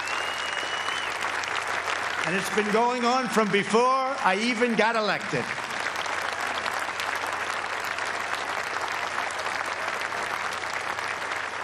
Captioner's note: applause